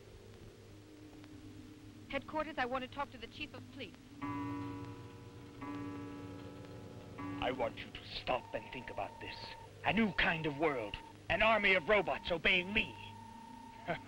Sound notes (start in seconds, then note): 4.2 clock chiming